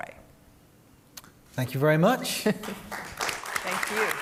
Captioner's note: applause